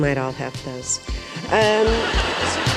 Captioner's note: theme music plays; laughter